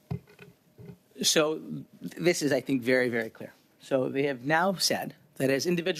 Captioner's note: speaking in French